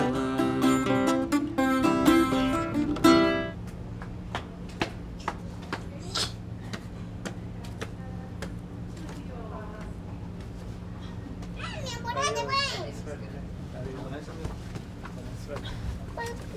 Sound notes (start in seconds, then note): 2.6 footsteps pattering; 10.7 family chattering in foreign language